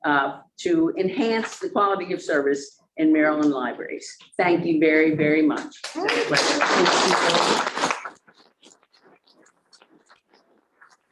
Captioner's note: applause